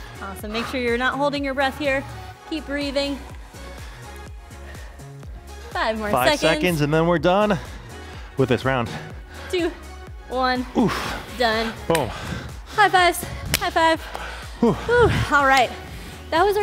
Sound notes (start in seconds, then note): 0.0 upbeat music; 3.8 upbeat music; 10.6 sighs; 14.1 both sighing